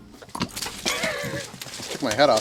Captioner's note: laughing